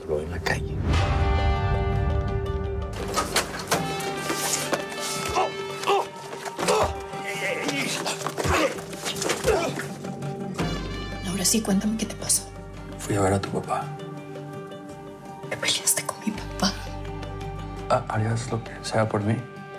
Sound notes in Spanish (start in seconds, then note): 2.7 Golpes; 2.7 Quejidos